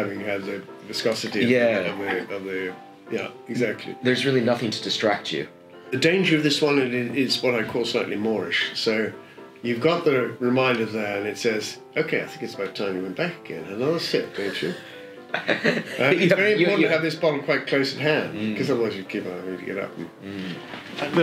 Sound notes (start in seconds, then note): 15.3 laughs